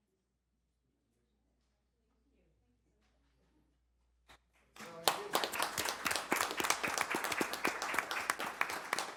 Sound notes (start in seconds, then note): 7.9 applause